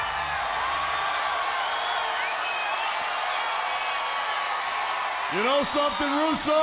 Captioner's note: crowd cheering